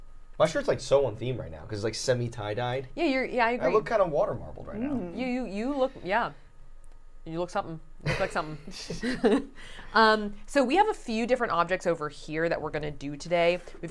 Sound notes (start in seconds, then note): 8.0 chuckling